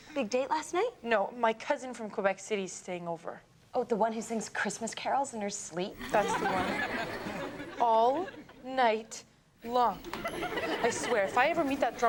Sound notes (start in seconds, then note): 6.0 audience laughs; 10.1 audience laughs